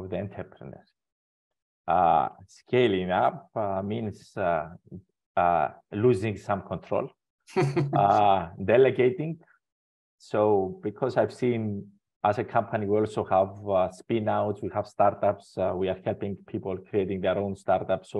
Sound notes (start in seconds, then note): 7.6 laughs